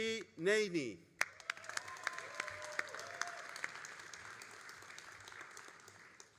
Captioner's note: all applauding and cheering